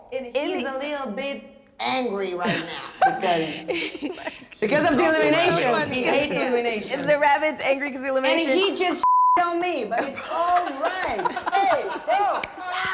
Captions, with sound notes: It is a little bit angry right now. Because of the elimination. He hates elimination. - The rabbit's angry because of the elimination. - And he just (beep) on me! (laughing)